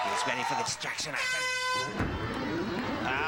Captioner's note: air horn